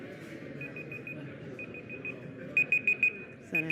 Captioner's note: beeping